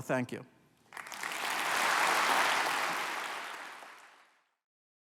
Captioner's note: applause